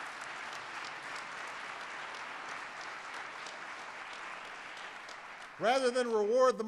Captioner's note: applause